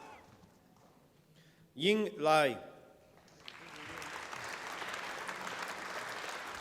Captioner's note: applause